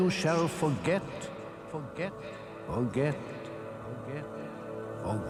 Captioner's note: echoes "forget"